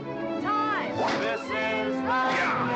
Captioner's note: crack; cracking whip